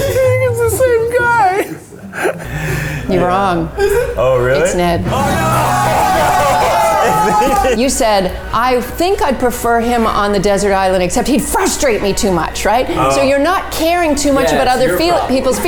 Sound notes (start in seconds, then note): 1.6 all laughing; 5.0 cheering and laughing